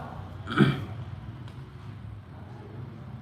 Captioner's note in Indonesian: berdehem